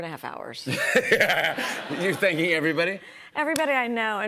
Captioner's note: laughs